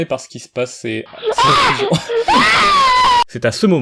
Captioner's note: smol child scream